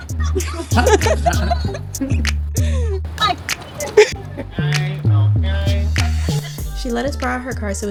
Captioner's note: laughs